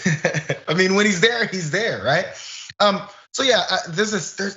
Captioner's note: laugh